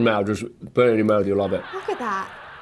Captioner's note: audience laughing